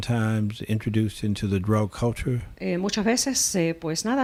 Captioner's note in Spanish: Hablando ingl\s